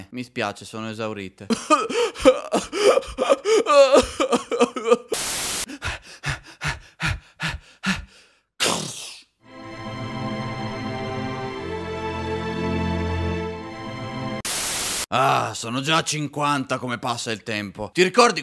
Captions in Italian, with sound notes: Mi spiace sono esaurite *sob sob* Aah! Sono già 50. Come passa il tempo